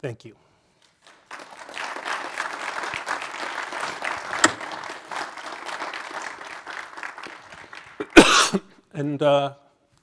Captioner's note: applause; cough